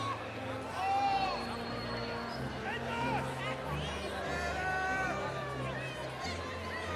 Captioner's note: inspirational music; cheering continues